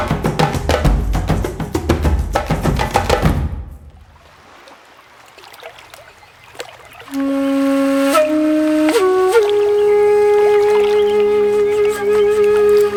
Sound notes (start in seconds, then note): 3.9 water splashing; 6.9 gentle flute music